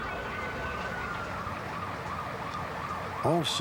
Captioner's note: sirens blaring